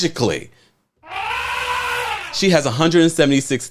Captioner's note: elephant trumpeting